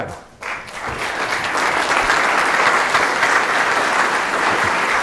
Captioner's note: audience applause